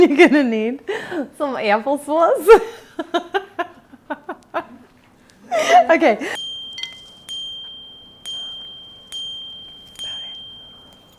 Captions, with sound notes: - You're gonna need some apple sauce. (laughing) (dinging)